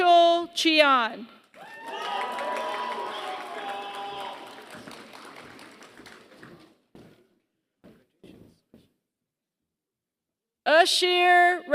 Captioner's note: applause